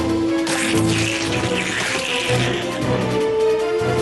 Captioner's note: slurp